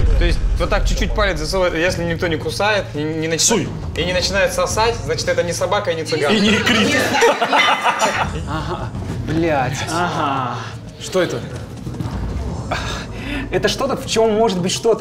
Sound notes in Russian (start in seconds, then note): 6.4 немного нервный смех